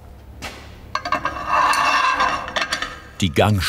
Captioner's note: scratching metallic sounds